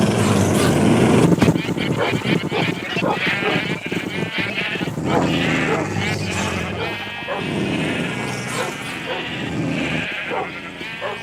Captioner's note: growling